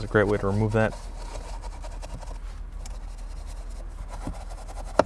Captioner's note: brush scrubbing